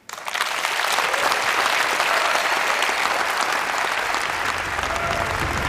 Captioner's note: applause